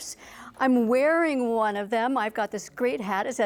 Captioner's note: none